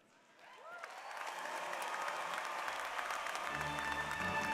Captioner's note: applause